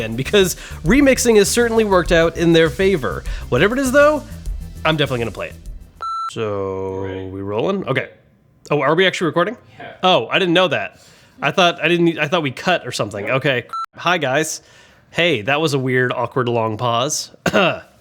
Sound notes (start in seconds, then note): 6.0 beep; 13.7 beep; 17.4 clears throat